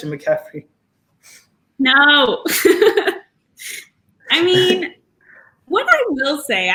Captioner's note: laugh